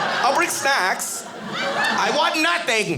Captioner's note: audience laughing